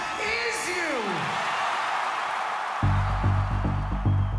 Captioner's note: cheering